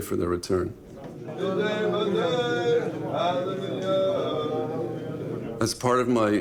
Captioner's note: chanting in foreign language